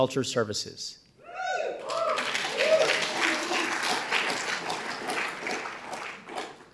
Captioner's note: audience cheering and applauding